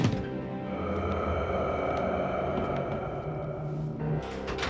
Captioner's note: eerie groaning